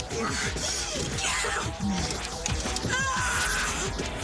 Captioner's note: Jodie screaming